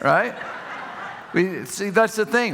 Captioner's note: audience laughing